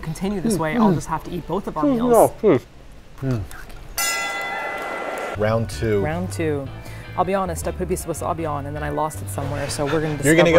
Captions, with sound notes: I'll just have to eat both of our meals. (loud bell ringing) - Round two. - Round two. I'll be honest I put some wasabi on and then I lost it somewhere so we're gonna go for it.